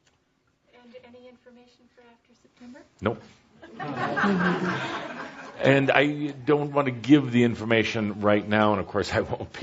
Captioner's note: laughter